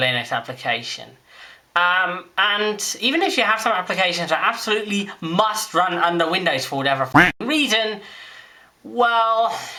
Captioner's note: quack